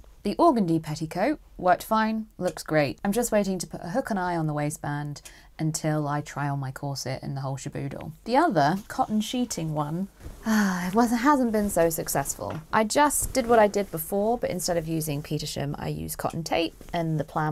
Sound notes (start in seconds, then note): 10.4 sighs